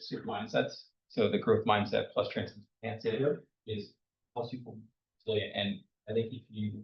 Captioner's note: speaks faintly